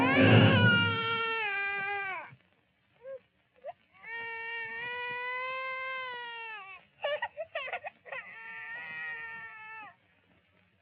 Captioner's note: baby crying